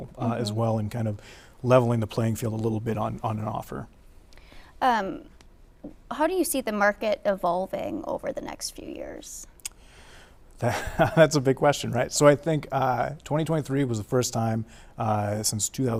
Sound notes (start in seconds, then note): 10.6 chuckles